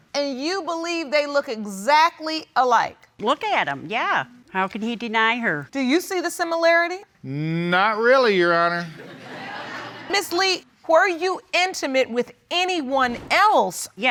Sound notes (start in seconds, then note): 7.1 audience laughing